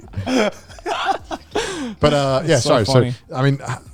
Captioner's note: all laughing